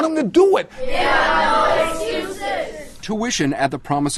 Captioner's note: students reciting